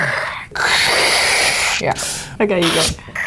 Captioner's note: hissing